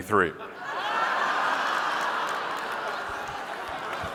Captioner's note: audience laughing